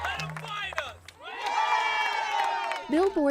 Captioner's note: cheering